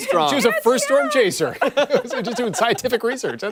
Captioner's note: laughter